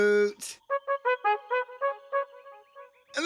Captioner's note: hooting